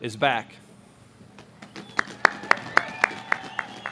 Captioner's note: audience claps